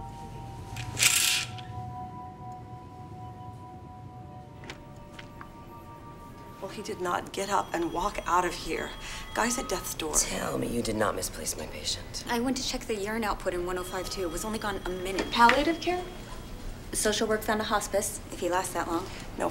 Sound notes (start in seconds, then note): 0.1 curtain rattles; 6.7 telephone rings